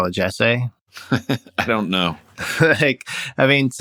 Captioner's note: laughter